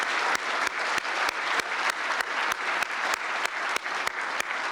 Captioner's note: applause